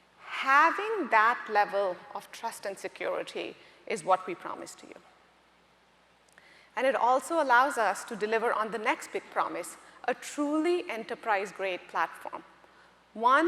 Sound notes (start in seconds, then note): none